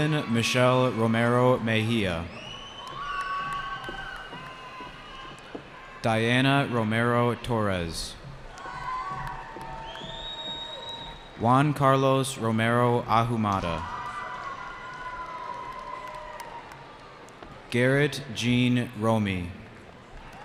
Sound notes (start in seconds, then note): 3.6 cheering; 9.2 cheering; 14.6 cheering